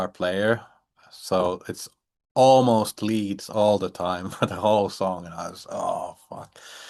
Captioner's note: chuckles